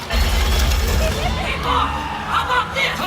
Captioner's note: heavy gunfire